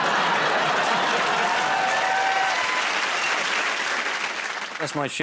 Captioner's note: laughter